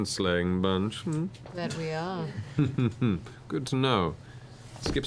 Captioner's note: chuckles